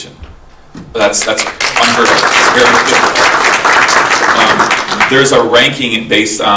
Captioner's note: attendees applauding